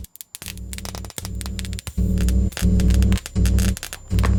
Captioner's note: light whirring